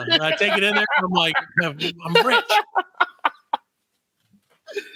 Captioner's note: laughing